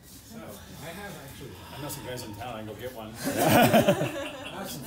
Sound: laughter

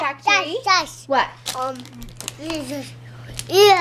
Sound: toddler babbling

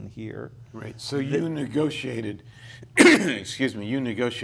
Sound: coughs

